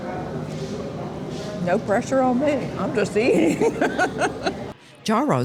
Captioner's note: laughs